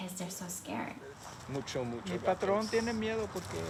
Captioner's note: speaking in Spanish